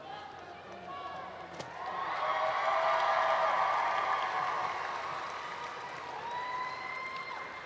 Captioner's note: cheering